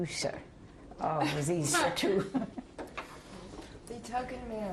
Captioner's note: laughter